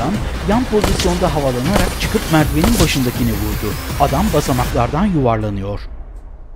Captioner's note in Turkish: Silah sesleri